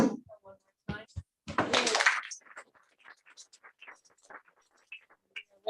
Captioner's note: applause